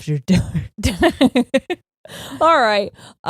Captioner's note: laughing